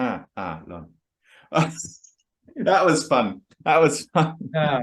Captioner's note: laughs